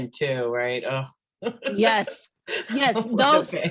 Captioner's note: laughs